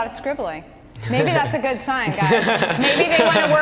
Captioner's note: laughter